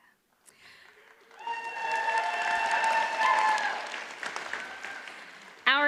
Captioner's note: audience cheers and applauds